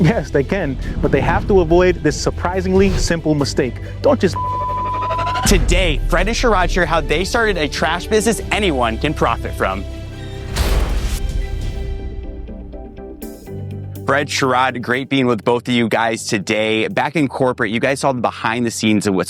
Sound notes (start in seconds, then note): 4.3 beep; 10.1 gentle music